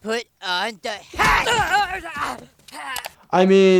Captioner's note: Timmy grunts; brace thuds